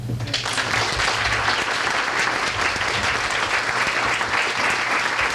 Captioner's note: applause